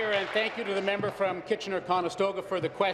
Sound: applause

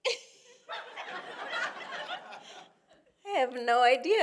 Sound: congregation laughing

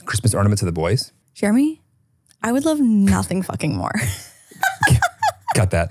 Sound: laughs

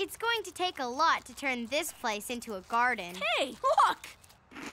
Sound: chomping and giggling

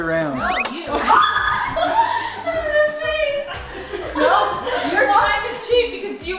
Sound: excited laughing

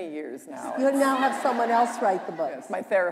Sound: laughter

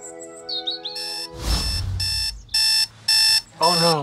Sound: alarm beeping

